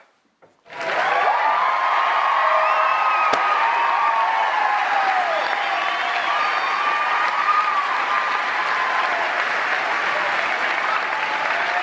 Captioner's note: applause